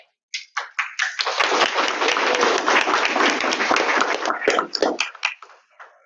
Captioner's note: audience Clapping